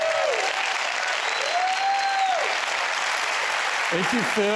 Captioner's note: applause